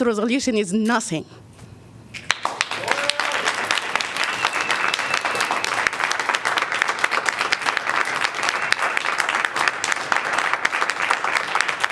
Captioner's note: applause